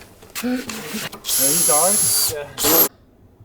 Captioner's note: tools sound